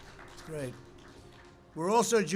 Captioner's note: applause